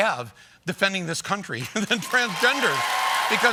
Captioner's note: cheers and applause